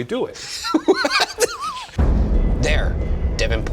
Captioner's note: laughing